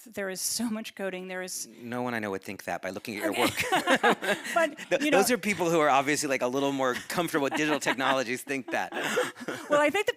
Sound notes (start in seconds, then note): 3.3 laughing; 9.1 laughing